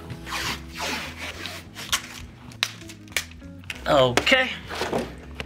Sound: tape rips

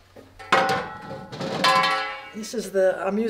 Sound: metal clangs

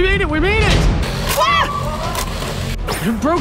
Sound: scream

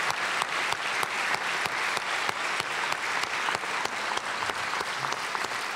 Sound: applause

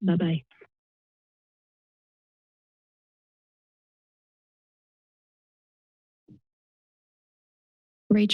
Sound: silence

